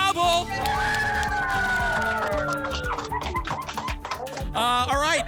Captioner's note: applause and cheering